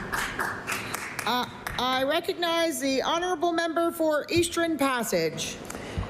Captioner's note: applause